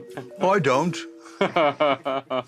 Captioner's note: laughing